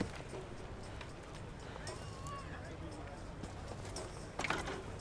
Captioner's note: indistinct chatter